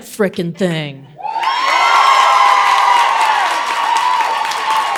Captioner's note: audience applauding